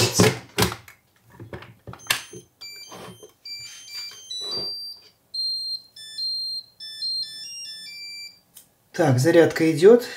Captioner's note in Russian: звук мелодии включившегося зарядного устройства